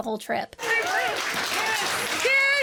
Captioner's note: guests cheering